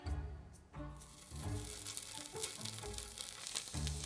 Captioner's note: sizzling